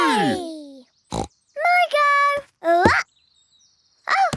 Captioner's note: snorts